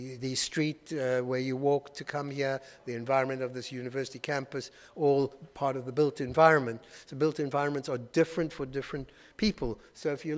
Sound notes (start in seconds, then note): none